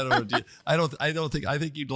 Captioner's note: laugh